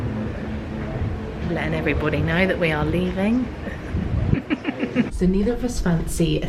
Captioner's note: chuckles